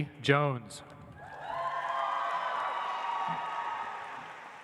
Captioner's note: audience applauds